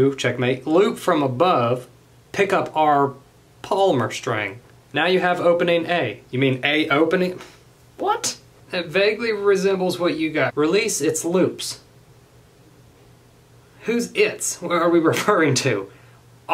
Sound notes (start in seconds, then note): 7.7 sighs